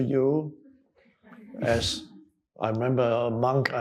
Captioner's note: audience chuckling